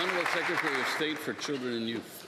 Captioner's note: applause